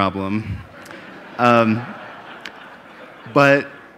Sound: audience laughing

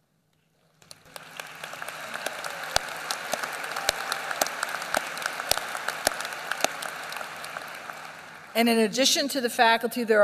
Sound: applause

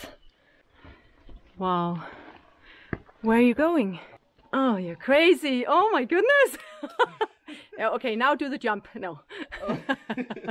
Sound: laughing

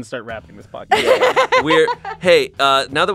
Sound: laughs

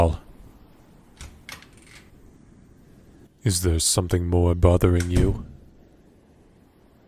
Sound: doors Opening and Closing once more

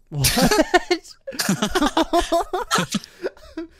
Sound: laughing

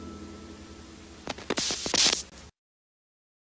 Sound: TV static

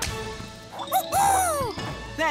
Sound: hooting

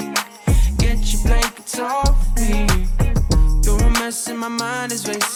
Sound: applause

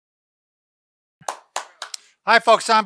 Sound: claps

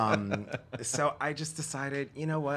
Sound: laughter

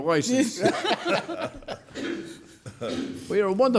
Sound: laughing

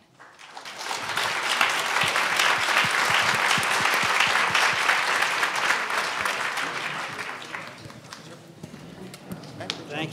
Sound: applause

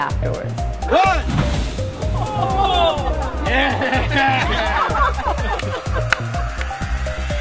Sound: cheering

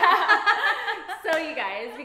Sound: laughs

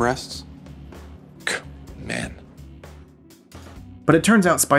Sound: scoffs

